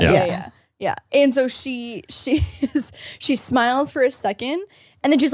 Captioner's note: laughs